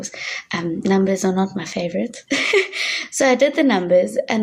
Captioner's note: chuckling